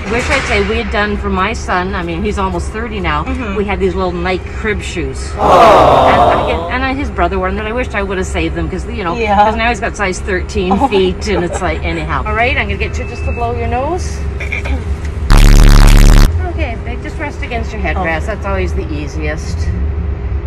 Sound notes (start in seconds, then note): 14.4 clears throat; 15.3 loud bass